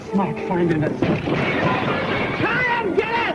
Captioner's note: glass shattering